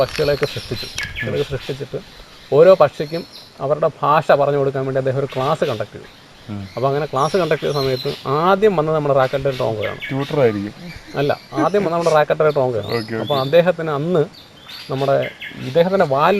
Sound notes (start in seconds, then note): 12.6 laughs